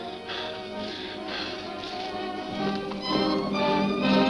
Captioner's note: Phantom panting